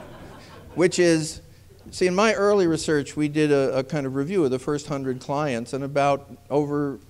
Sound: laughter

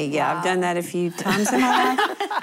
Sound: laughter

